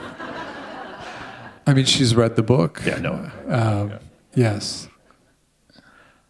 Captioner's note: laughter